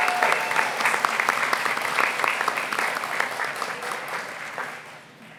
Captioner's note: applause